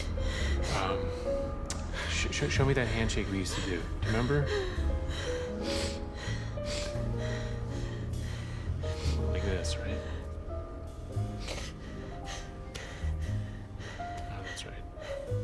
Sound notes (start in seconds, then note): 1.6 clicks tongue; 3.3 breaths heavily, sniffles; 11.3 sniffles